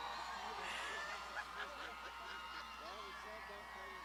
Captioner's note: laughs